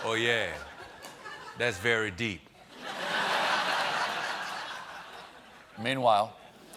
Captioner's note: laughter